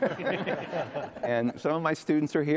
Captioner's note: audience laughs